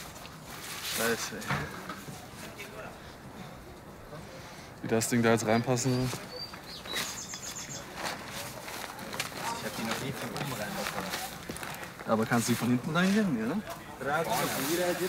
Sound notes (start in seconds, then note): 6.3 birdsong